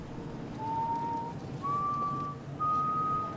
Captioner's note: whistling